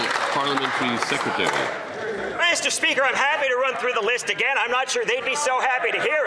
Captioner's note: some Applause